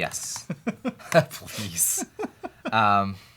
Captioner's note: laughs